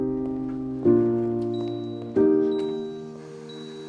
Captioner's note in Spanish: Suenan pitidos